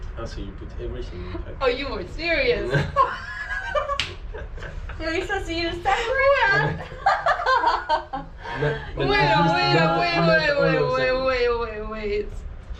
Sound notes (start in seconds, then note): 2.6 laughter; 6.4 more laughter